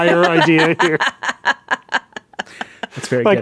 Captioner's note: laughing